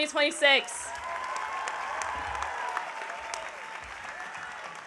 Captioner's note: audience applauding